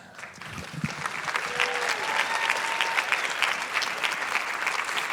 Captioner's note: applause